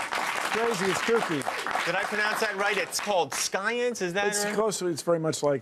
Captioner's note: applause